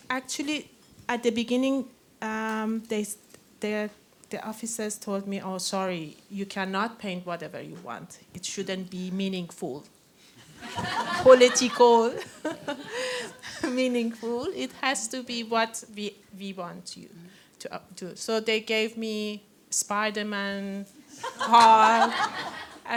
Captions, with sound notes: Actually, at the beginning, there the officers told me, oh, sorry, you cannot paint whatever you want. It shouldn't be meaningful-- [LAUGHTER] . --political, meaningful. It has to be what we want you to do. So they gave me Spiderman, Hulk.